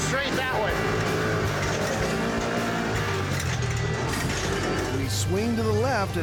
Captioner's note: motor revving